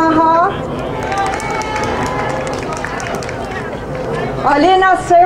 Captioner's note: crowd applauding